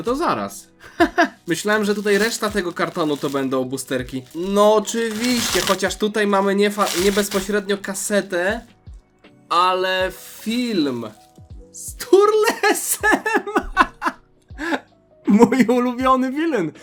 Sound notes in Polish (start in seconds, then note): 12.4 śmiech